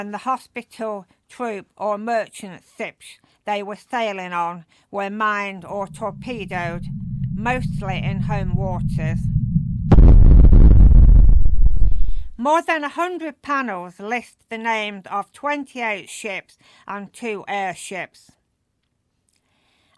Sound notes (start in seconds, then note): 10.0 explosion